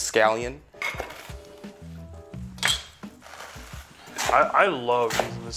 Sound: knife cutting on board

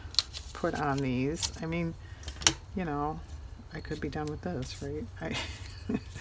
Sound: laughs

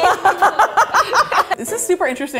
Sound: laughs

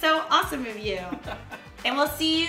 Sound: laughs

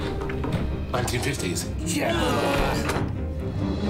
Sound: ghosts all groan

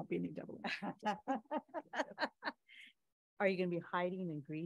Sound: laughs

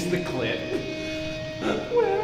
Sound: laughs

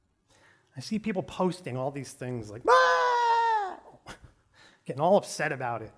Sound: screams

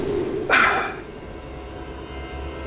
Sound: sighs

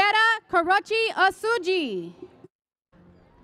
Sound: none

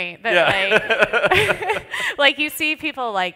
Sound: laughter

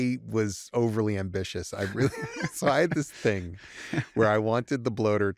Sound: laughter

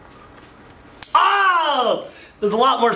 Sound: coins hit the floor

